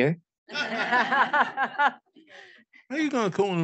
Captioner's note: audience laughing